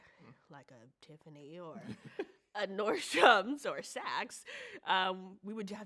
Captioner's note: chuckles